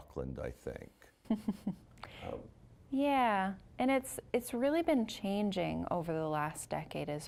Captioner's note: chuckling